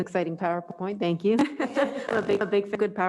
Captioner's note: they laugh